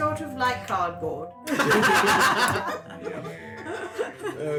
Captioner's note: laughter